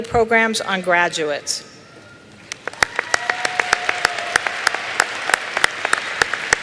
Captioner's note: applause